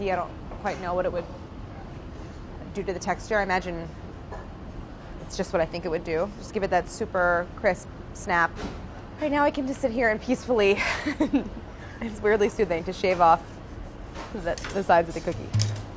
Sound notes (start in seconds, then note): 11.2 laughs; 15.3 bossa nova music